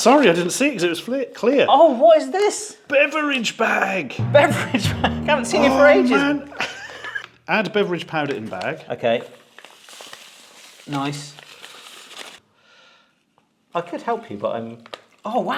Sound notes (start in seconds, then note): 4.2 dramatic music; 7.1 laughs; 9.5 powder rustles